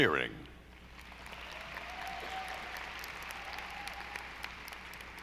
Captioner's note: audience applauding